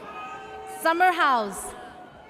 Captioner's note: audience cheers